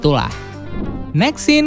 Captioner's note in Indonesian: suara transisi